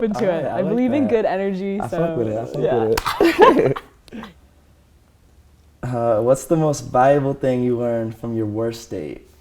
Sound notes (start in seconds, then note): 2.9 both laugh